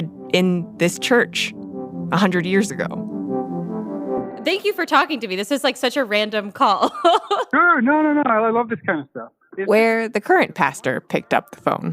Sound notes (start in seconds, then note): 6.8 laughs